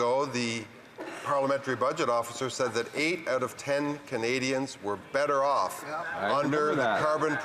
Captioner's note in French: voix de l'interprète